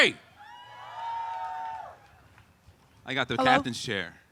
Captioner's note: cheering